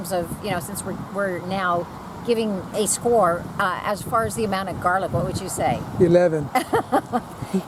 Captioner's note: laughter